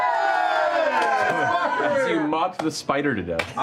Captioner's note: cheering